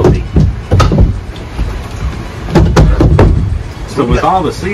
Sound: seats bang closed

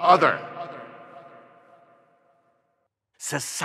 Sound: echo resounds

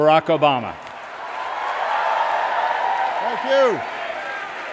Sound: applause

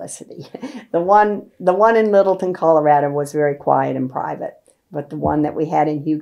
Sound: laughs

